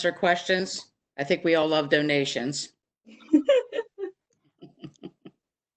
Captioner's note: laughs